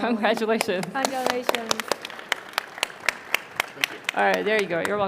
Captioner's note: crowd applauding